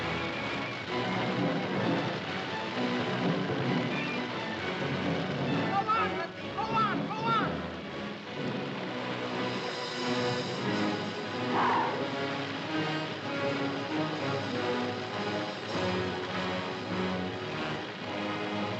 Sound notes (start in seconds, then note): 0.0 dramatic music; 0.0 fire roaring; 8.4 dramatic music; 8.4 water splashing; 11.8 dramatic music; 11.8 fire roaring